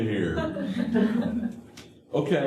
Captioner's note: laughter